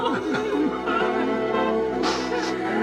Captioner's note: women wailing